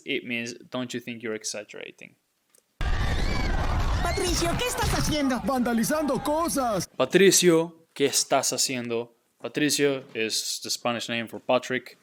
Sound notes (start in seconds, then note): 4.3 speaking in Spanish